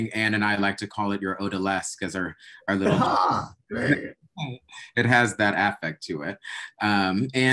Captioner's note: chuckling